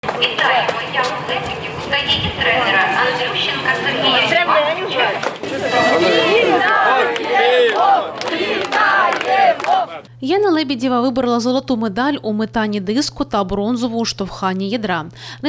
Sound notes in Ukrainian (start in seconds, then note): 0.0 лунає гучномовець; 5.4 голосно кричать